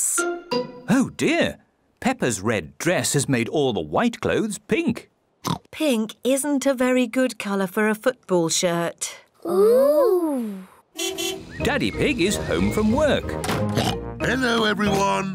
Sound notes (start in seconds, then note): 5.4 oinks; 10.9 car horn toots; 13.6 oinks